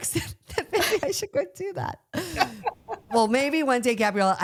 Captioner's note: both laugh